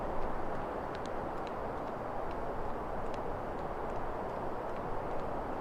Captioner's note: footsteps tapping continues